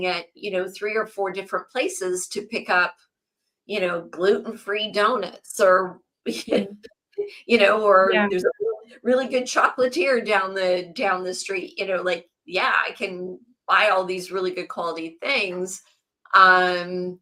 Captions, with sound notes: at, you know, three or four different places to pick up, you know, gluten-free donuts or- (laughs) ... (laughs) you know, or- Yeah. ... there's a r- really good chocolatier down the, down the street. You know, like, yeah, I can buy all these really good quality things. Um,